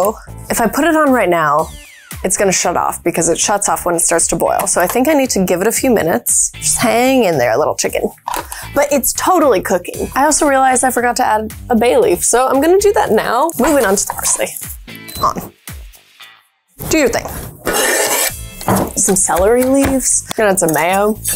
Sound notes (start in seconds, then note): 16.9 knife scraping